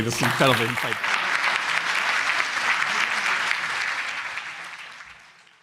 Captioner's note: applause